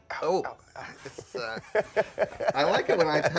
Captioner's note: Aaron laughs